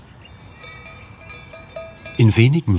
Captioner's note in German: Kuhglocken